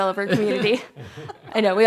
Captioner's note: laughter